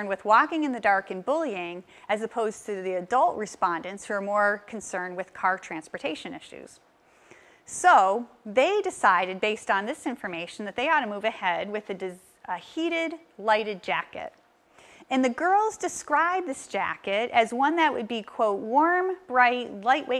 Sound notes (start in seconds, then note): none